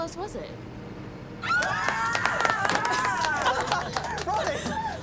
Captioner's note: all cheer and laugh